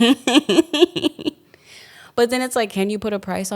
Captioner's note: laughs